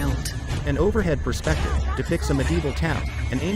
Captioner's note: people chattering; horses galloping